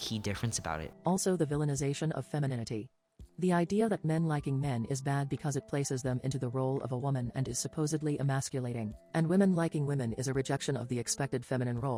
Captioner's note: robot voice